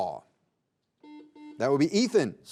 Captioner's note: buzzer buzzing